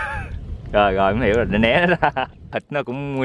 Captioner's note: laugh